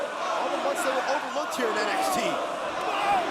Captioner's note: crowd chatter